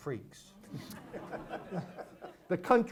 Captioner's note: audience laughs